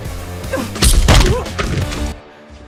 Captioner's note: both grunt